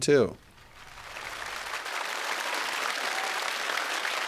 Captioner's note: audience applauding